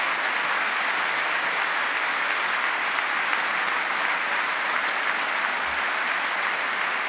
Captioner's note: applause